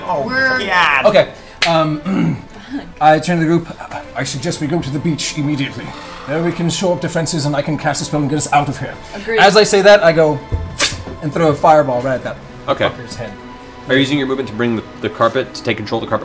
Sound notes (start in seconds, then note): 10.6 fwwt